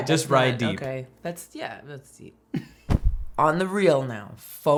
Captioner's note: chuckles